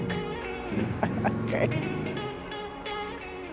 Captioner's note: laughs